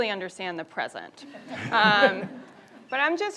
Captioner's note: audience laughs